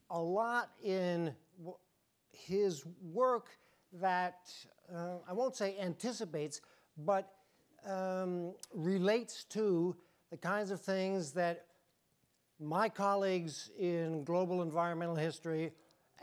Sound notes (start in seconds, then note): none